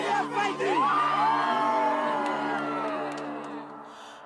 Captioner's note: all cheer